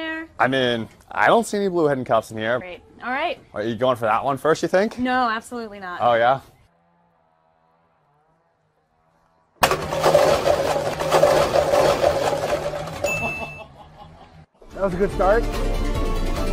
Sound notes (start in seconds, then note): 9.6 clatters